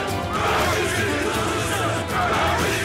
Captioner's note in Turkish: Hep bir ağızdan